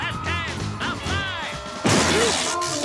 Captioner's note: electricity zaps; TV bangs